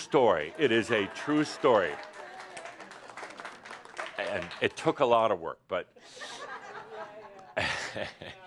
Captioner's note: some applause